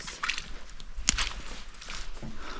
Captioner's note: squelch